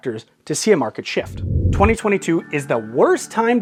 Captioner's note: air whooshing